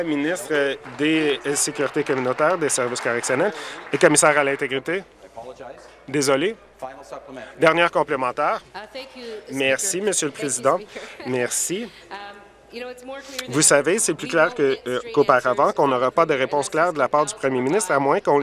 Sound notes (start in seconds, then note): 5.5 applause